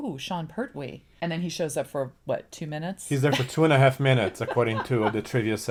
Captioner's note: laughs